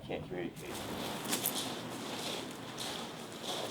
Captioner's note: footsteps